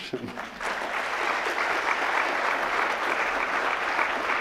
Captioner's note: audience applauds